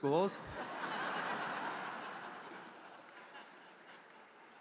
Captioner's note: audience laughing